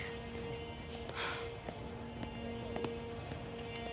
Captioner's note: Cat sighs; ominous music